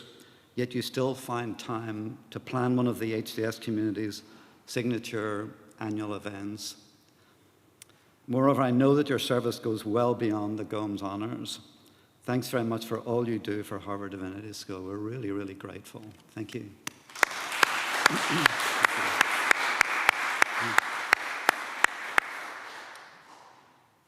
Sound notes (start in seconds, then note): 16.8 applause